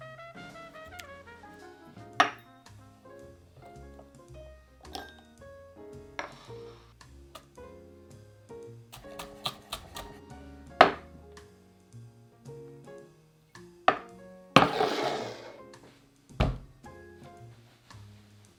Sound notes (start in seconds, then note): 8.9 knife chopping